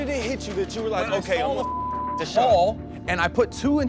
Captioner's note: beep